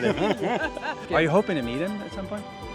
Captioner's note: laughing